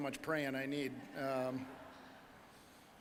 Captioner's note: audience laughing